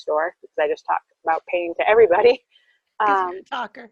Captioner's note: laughs